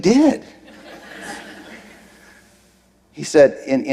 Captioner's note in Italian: Risate